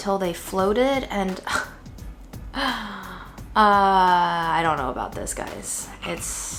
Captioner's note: scoffs